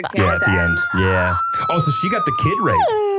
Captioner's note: screams